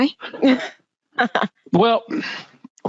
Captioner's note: laughing